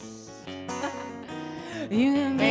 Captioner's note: laughing